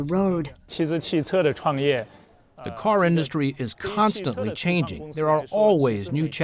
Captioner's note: through translator